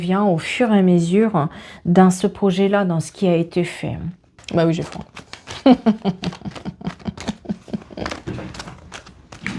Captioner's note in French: rires